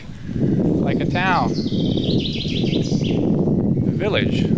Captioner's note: air whooshing